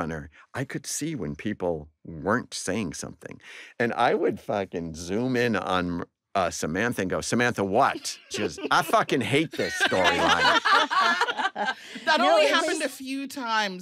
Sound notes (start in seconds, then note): 10.5 all laugh